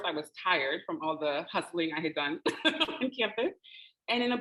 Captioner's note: laughing